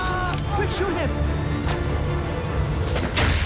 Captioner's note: whipping blows; guns shots